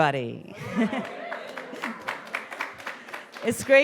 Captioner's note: audience applauding and whooping